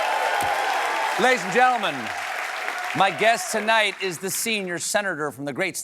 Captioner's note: cheers and applause